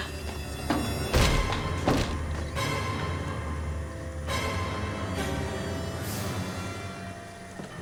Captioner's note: dramatic music; front door thuds